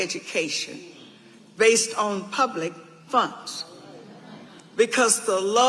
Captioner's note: audience agreeing